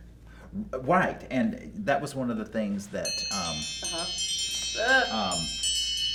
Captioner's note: timer Chimes